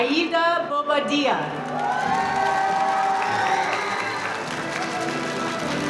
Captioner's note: cheering and applause